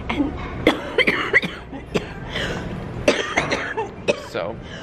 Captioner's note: coughing